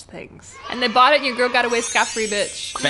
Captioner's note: cheering